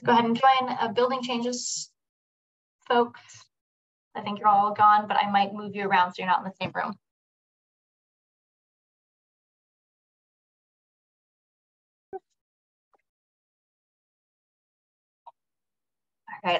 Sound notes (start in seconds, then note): 8.6 silence